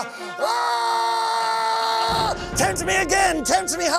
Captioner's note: screams